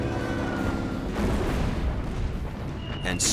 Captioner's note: explosion